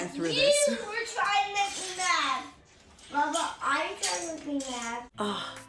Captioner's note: children talking in background